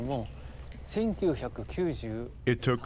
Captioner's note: speaking Japanese